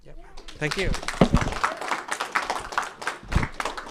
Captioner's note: applause